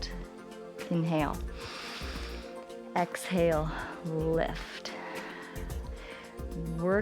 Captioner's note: inhales; exhales